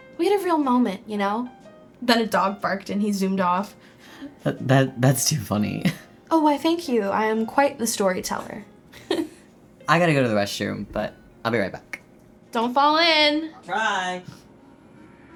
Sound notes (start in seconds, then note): 8.9 chuckles